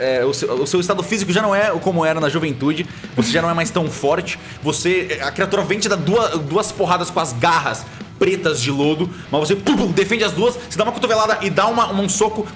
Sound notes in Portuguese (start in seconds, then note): 9.6 pow, pow